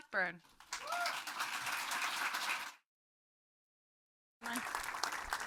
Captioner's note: audience applauding